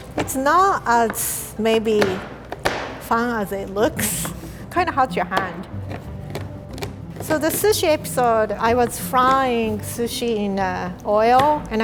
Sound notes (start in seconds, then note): 1.8 knife clacks; 5.8 chocolate crunching